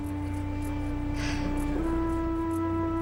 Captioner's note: sigh